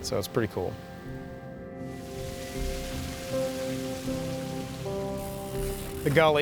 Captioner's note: water rushes